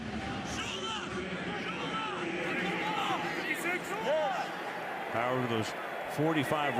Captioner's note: onfield chatter